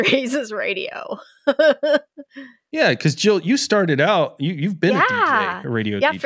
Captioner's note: laughing